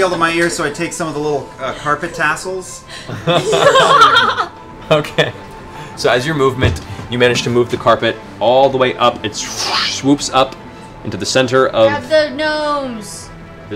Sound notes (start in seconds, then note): 2.9 laughs